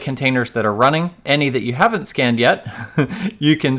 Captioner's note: laughs